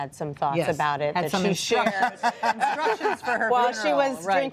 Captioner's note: laughter